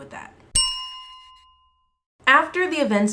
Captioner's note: bell chime